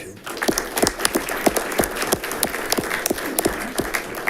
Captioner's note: audience clapping